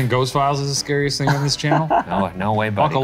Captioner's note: laughs